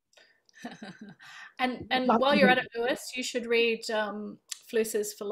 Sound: laughs

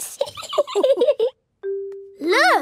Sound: laughing

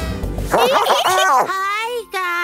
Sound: giggling

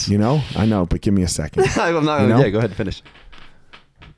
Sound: chuckling

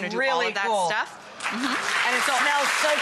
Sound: audience applauds

